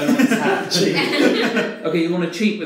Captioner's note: laughing